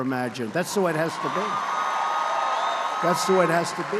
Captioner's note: applause